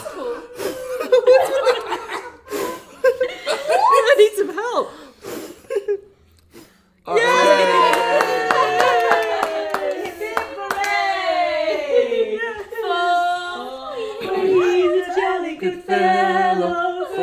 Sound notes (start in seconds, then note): 1.5 people laugh; 7.0 people cheer